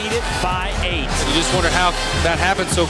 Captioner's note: voiceover